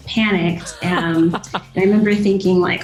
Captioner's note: laughter